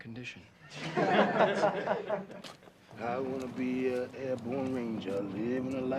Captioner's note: laughter